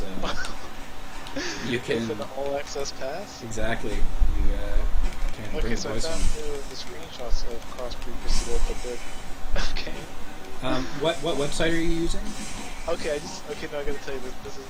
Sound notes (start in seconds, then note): 0.1 laughing; 9.5 chuckling